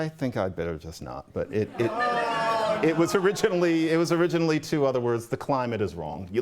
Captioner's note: laughter